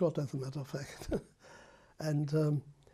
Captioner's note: laughs